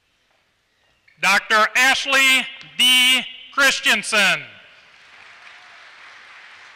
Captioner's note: applause